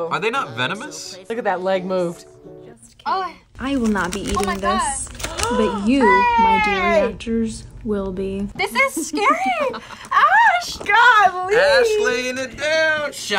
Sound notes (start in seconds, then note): 5.1 gasps; 8.6 laughs